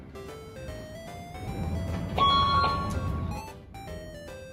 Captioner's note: swipe sound